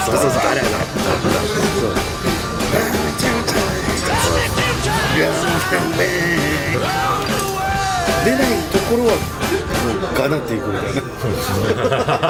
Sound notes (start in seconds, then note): 2.6 humming